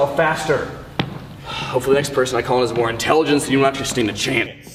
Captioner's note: sigh